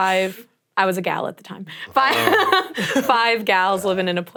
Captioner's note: laugh